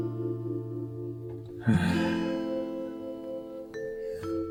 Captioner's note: sigh